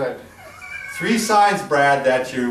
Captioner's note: snickers